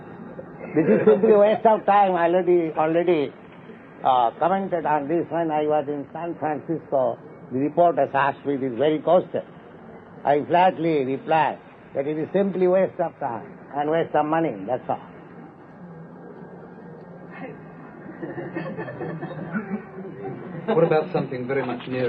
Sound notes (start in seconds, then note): 0.6 Risas; 18.0 Risas